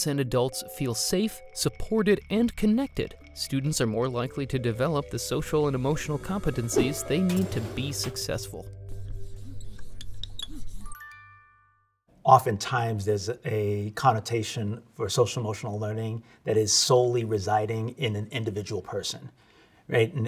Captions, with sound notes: and adults feel safe, supported, and connected, students are more likely to develop the social and emotional competencies they need to be successful. (bell chimes) - Oftentimes there's a connotation for social emotional learning that is solely residing in an individual person, right?